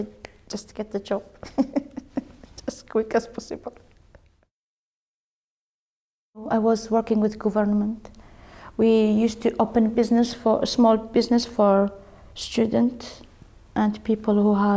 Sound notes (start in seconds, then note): 1.4 laughs